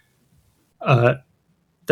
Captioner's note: uh